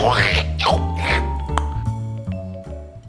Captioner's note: slurping, click